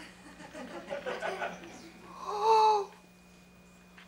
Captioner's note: audience laughter